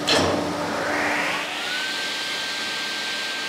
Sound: machine whirring

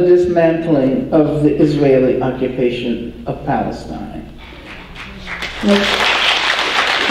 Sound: applause

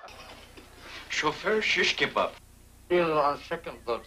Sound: chuckles

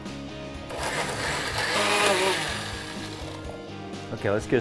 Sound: blender whirring

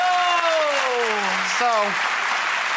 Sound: cheers and applause

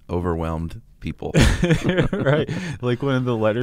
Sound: both laughing

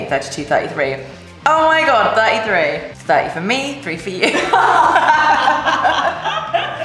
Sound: laughter

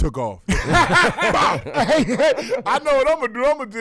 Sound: laughing

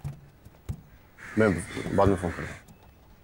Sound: crows cawing

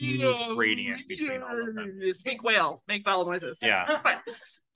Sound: says a continuum of vowels

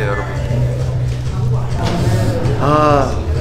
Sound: haha

